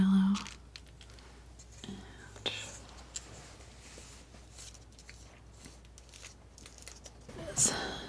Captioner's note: scratching